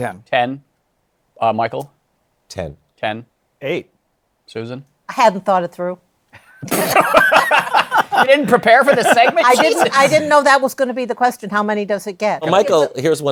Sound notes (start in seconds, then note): 6.4 laughter